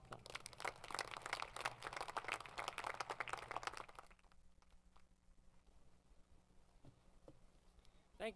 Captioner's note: applause